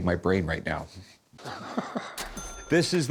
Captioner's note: laughs